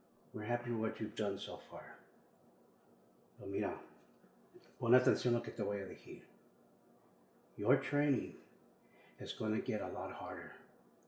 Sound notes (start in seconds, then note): 3.5 Spanish